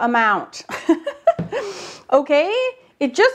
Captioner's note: giggles